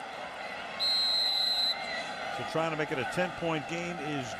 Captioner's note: whistle